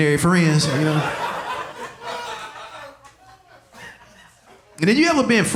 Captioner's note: audience laughing